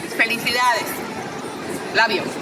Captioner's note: speaking in foreign language